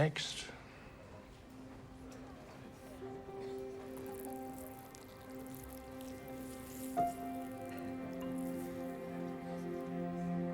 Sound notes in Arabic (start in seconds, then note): 3.0 يقطر البول